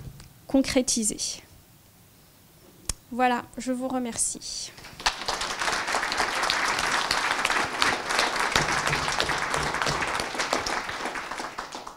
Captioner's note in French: applaudissements